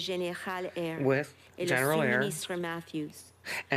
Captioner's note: speaking French